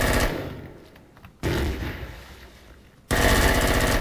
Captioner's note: automatic gunfire; explosion; automatic gunfire